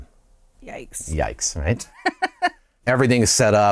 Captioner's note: laughter